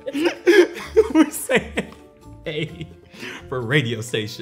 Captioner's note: laughing